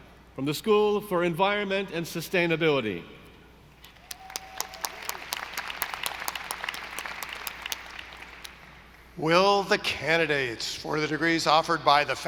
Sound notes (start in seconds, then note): 4.0 audience applauding